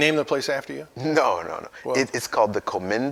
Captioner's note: laughs